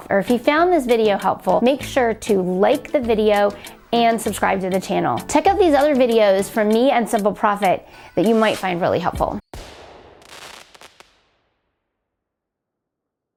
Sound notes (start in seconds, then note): 9.2 fireworks booming; 9.5 fireworks crackling